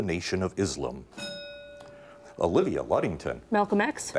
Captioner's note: bell rings